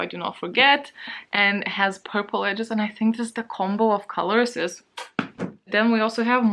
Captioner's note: chef's kiss sound